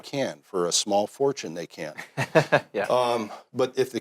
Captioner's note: laughs